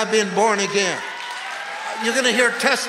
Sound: congregation cheers

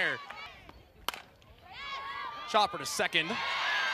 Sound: ball hitting bat

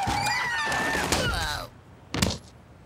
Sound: brakes screeching; groans

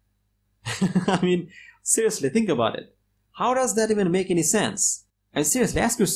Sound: laughs

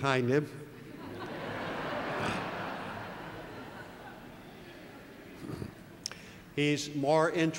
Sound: laugh

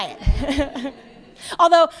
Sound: chuckling

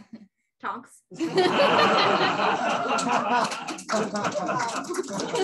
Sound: laughter

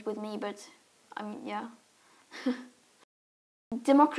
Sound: Greta chuckles

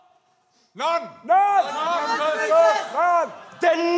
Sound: crowd

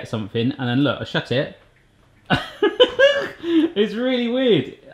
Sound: laughing

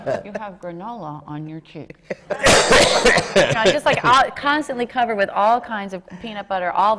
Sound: laughter

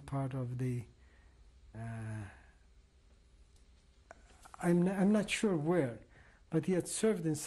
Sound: pauses for 3 seconds

